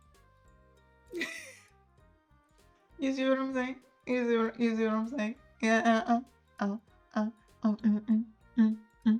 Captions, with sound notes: [LAUGHS] You see what I'm saying? You see what I'm saying?